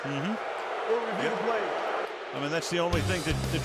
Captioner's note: crowd booing